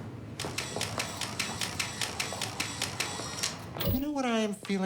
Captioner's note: camera clicking